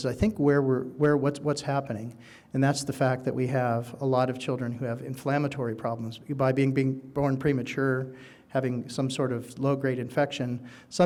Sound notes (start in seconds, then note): none